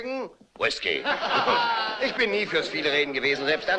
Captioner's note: laughing